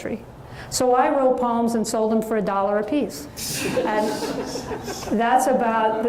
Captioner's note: audience laughs